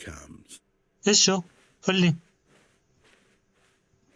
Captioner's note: footsteps